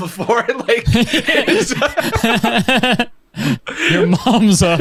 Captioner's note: pair laughs